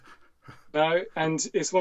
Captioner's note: chuckles